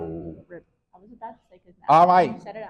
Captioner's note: faintly speaking